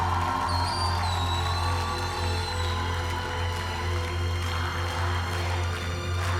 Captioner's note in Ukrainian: оплески